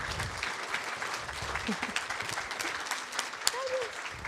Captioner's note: audience applauds